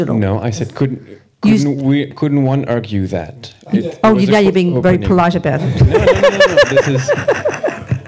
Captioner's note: laughter